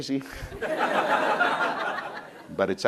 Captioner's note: crowd laughing